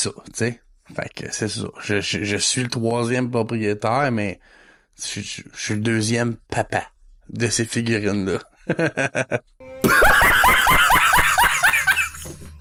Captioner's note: laughing